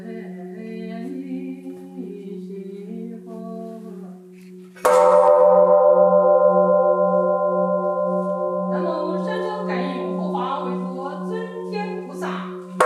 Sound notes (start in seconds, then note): 4.8 bell chimes; 8.7 nun chanting in Chinese